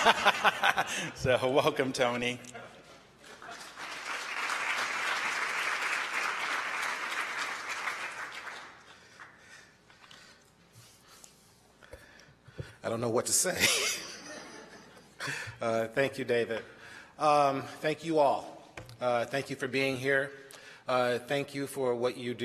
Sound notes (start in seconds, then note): 3.2 applause